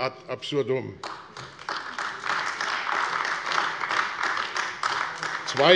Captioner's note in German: Beifall AfD